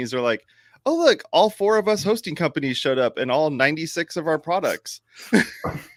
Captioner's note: sniffing